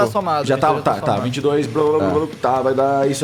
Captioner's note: babbling